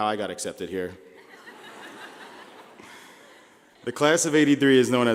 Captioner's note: laughing